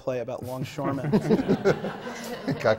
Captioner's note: laughter